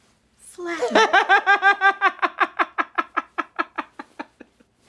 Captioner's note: Irving laughs hysterically